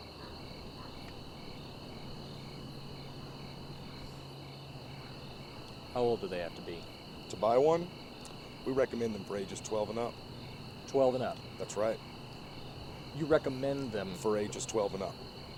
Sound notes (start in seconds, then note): none